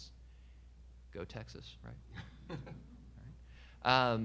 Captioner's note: audience member laughing